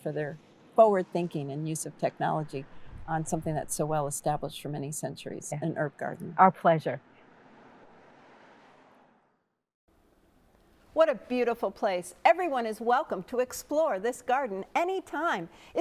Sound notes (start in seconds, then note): 7.4 cars whooshing